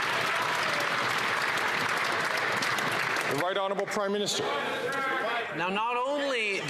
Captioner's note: some Applause